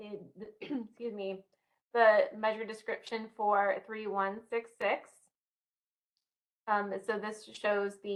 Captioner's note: clears throat